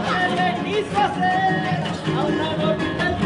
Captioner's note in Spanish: Aplausos